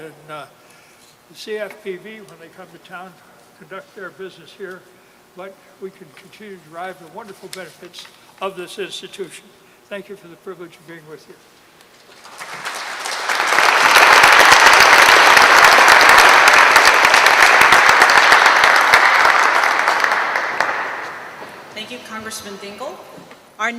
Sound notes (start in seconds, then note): 12.7 applause